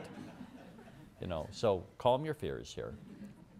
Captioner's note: laughter